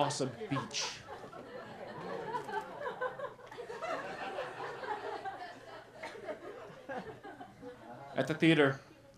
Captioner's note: laughter